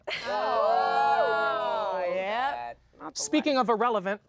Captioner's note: everyone groans